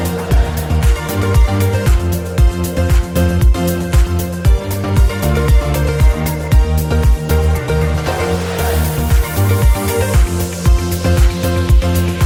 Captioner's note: laughs